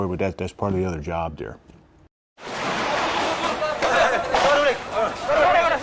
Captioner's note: people shouting and gunshots